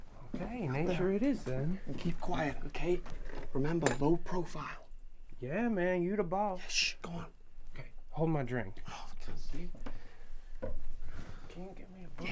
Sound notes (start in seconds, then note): 9.1 scoffs